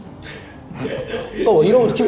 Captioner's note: laughter😆